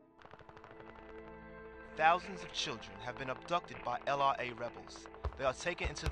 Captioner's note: radio newscast